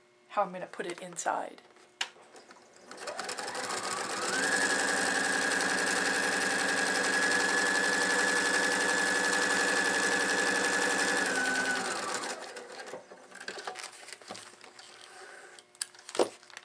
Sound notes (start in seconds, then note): 2.8 sound of sewing machine